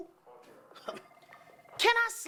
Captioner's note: rainer chuckles